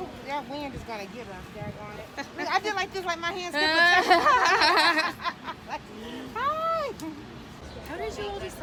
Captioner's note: laughs